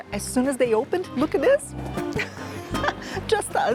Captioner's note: laughs